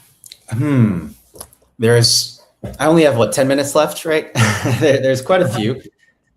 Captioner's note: laughing